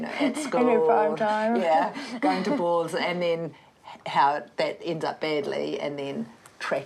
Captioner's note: chuckles